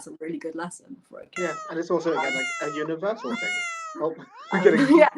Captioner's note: meow sounds